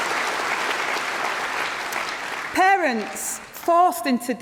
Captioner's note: applause